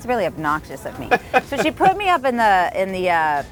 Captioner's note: laughing